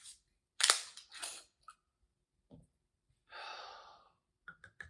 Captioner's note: bottle cap twisting open